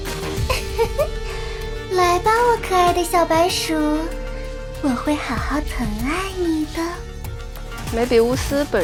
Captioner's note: giggles